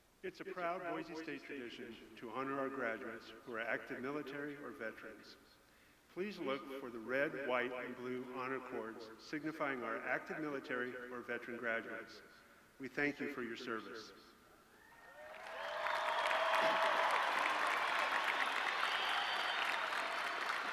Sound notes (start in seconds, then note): 14.8 audience cheering